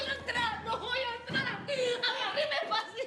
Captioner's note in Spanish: sollozos